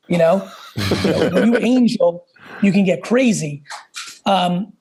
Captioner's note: laugh